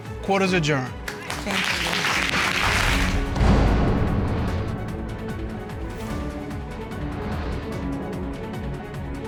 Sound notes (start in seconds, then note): 1.0 audience applauding; 3.4 dramatic music playing